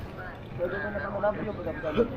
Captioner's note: people chattering